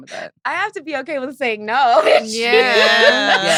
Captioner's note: laughs